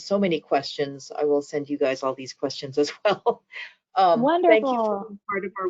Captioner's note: laughs